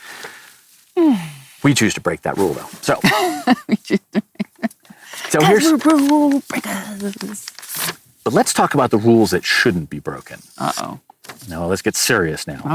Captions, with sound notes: We choose to break that rule though. (laughing) - That's a rule, break that rule. - But let's talk about the rules that shouldn't be broken. - Uh-oh. - No, let's get serious now.